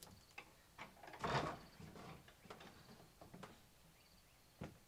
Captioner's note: door creaks